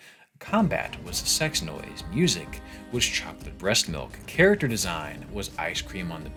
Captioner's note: sex noise